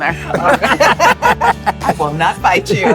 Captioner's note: all laugh